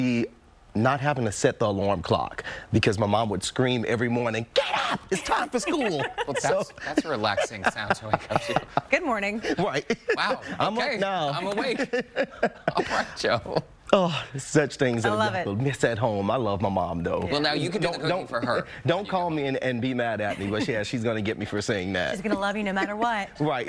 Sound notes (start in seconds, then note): 16.6 laughter